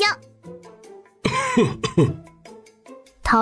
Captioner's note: coughs